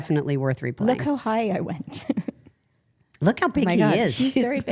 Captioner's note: laughs